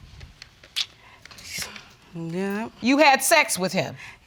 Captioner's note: clicks tongue